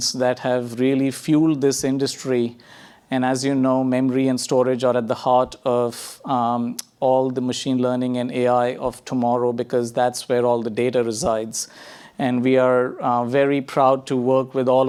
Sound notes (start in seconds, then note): none